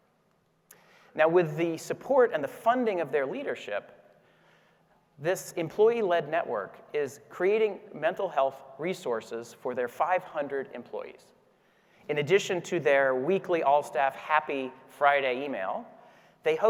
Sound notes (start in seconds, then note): none